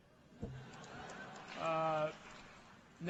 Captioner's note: laughter